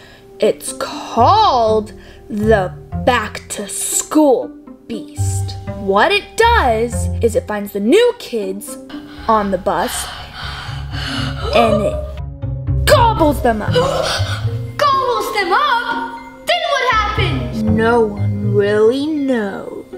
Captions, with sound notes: It's called, "The Back to School Beast." What it does is it invites the new kids on the bus, and it gobbles them up. - (Gasps) Gobbles them up? Then what happens? - No one really knows.